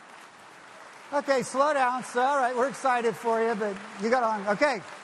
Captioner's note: clapping